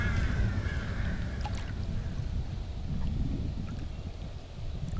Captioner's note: water lapping